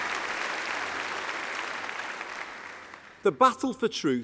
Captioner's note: applause